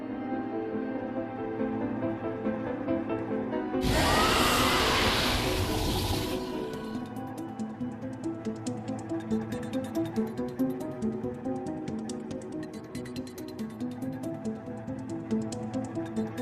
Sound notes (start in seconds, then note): 3.8 roar